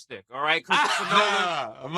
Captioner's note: laughing